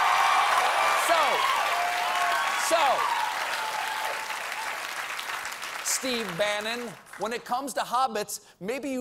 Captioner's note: cheers and applause